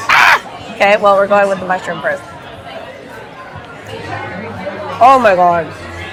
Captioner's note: screams